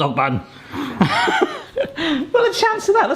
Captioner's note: laughing